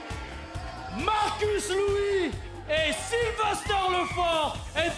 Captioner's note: cheers & boos